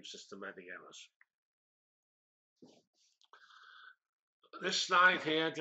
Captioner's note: pause